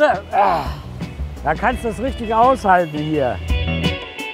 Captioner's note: sighs